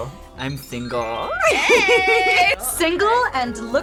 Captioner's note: laughs